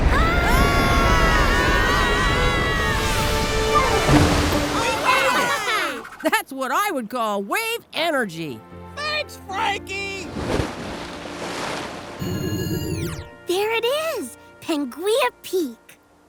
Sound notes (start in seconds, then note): 2.7 exciting music; 10.2 water splashing